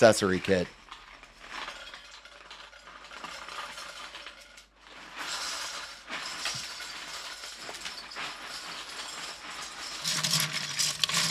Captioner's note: Bionicle dumping noise